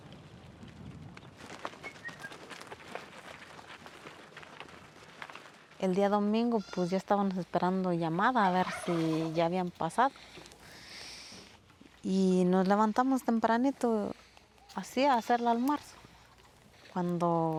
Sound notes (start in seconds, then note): 1.8 whistling